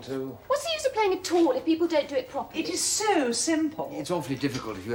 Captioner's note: SOREL, irritably